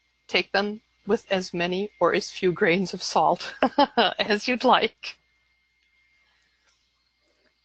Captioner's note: laughs